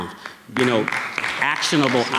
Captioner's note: audience clapping